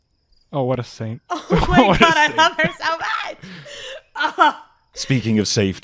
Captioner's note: laughing